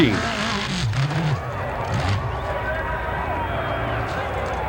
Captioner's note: engine revs and grunts